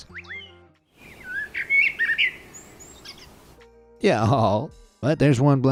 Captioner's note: blackbird tweeting